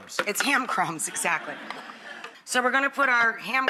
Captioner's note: laughing